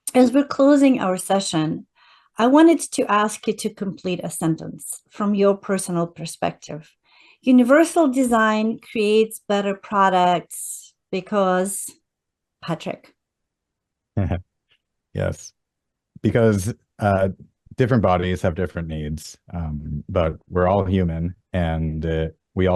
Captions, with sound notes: as we're closing our session, I wanted to ask you to complete a sentence from your personal perspective. Universal design creates better products because ... Patrick. (laughs) Yes. Because, uh, different bodies have different needs, um, but we're all human and, uh, we